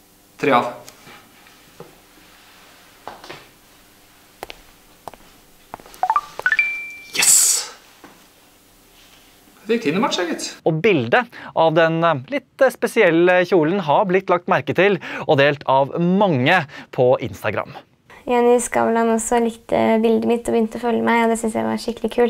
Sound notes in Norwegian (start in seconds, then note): 6.0 pling